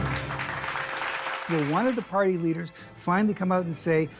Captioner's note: audience applauds